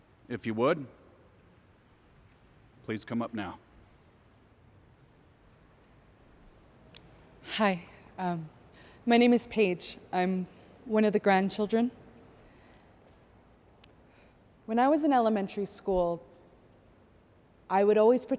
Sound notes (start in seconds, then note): none